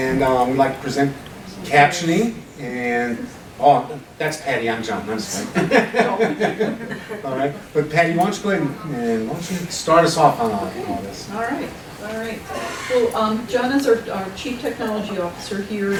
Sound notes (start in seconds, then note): 5.2 laughing